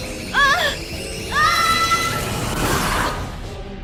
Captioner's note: Trixie screaming